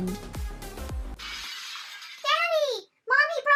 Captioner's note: glass Shattering